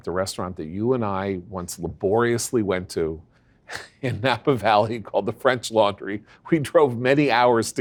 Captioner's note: laugh